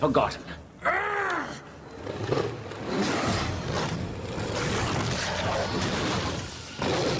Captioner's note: yelling and growling